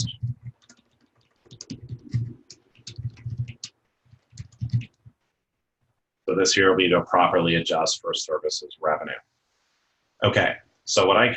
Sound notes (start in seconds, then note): 0.0 typing